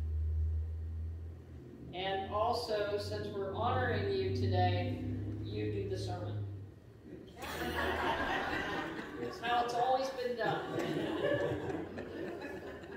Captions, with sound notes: And also, since we're honoring you today, you do the sermon. (LAUGHTER) That's how it's always been done.